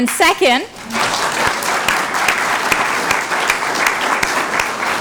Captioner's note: applause